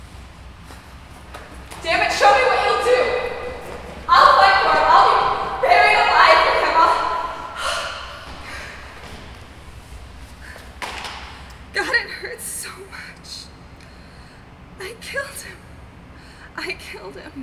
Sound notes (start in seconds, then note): 7.5 she gasps and collapses, crying